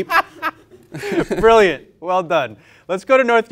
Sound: laughs

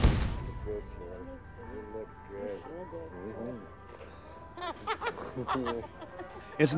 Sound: laughing; murmuring

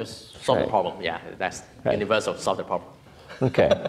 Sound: laughs

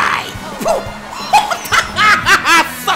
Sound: Dunkey's evil laugh

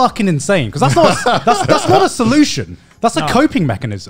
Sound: laugh

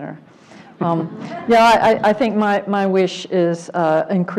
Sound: laugh

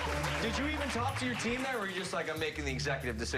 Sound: applause

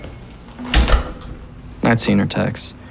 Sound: door shuts

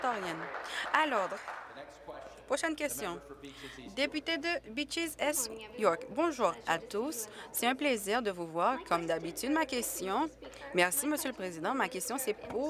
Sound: applause

